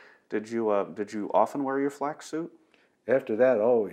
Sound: laughs

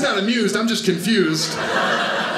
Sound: audience laughing

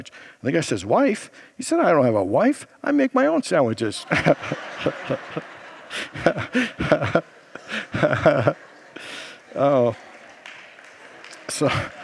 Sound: laughs along with congregation

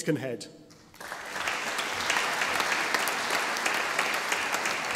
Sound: audience applauding

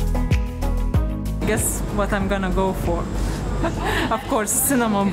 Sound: laughing

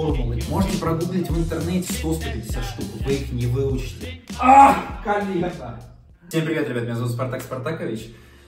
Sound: shout

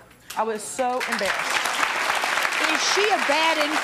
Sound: audience applauding

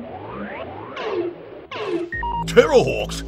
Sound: electronic beeping

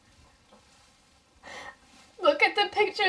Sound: sniffling

